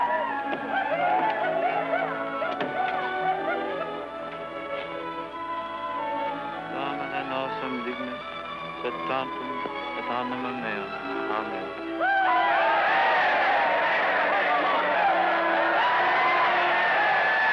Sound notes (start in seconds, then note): 1.6 dramatic music; 6.9 priest speaking foreign language; 11.8 crowd cheering